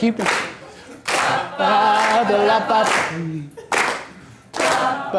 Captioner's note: voiceover